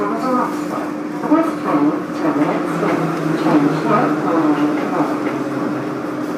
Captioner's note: braking - arrival at the station